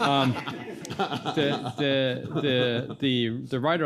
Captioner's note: everybody laughing